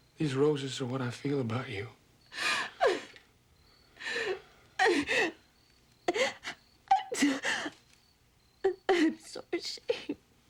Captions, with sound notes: These roses are what I feel about you. [SOBBING] I'm so ashamed.